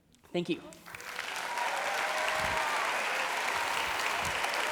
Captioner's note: applause